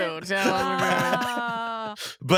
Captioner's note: laughing